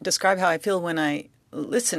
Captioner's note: speaking in French